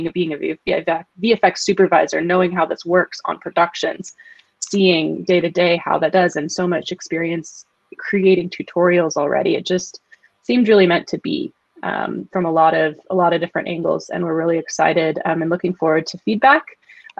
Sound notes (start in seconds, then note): none